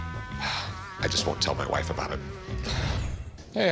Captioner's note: sigh